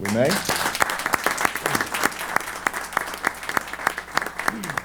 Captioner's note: applause